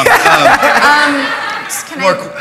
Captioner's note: laughter